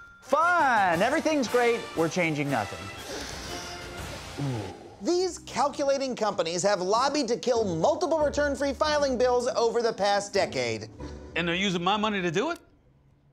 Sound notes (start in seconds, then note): 3.0 inhaling deeply